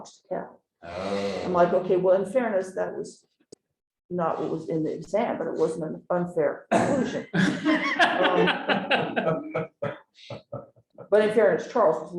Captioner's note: laughter